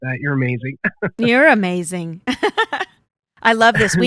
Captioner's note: laughs